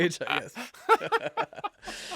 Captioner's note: laughter